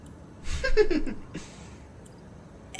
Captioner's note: cast chuckles